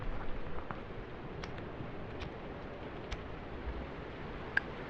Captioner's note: flame strikes, lighter clicks